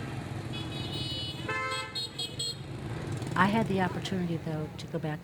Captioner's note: car horns honking